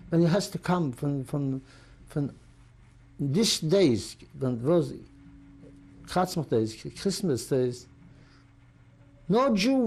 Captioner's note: non-english